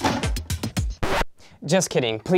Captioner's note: record scratch